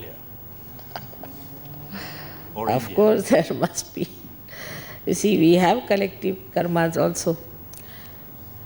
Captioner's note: laughs